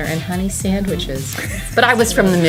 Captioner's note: chuckles